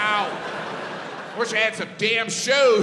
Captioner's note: crowd laughs